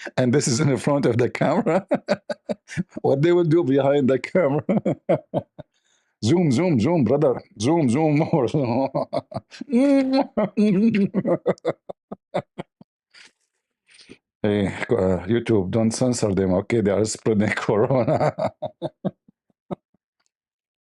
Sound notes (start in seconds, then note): 11.0 Ketawa